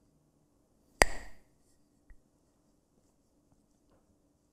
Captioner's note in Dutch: klakt met stokjes